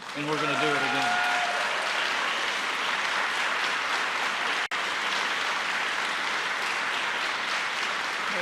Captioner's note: applause